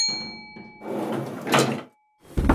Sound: elevator Opens

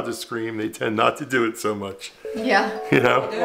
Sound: chuckles softly

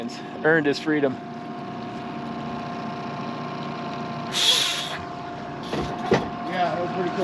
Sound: reel spinning

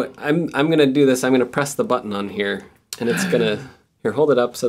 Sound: gasps!

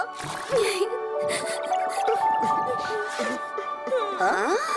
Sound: both crying

